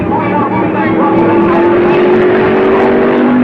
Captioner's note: car whirring